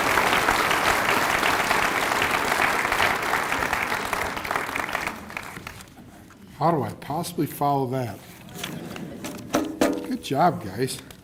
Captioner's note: cheers and applause